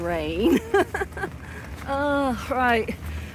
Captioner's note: laughing